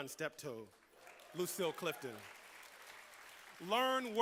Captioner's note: applause